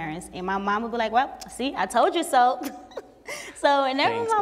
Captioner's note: laughs